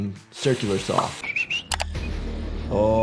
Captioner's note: whistles